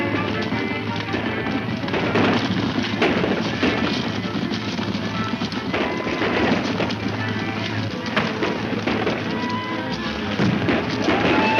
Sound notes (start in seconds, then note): 3.4 gun shots